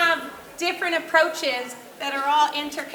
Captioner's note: none